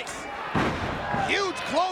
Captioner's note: Tanaka thuds